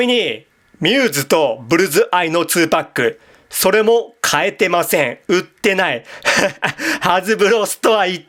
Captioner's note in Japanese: 笑い